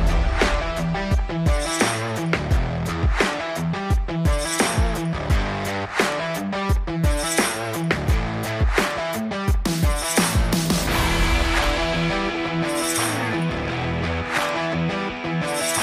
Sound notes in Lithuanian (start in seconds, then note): 0.8 Plojimai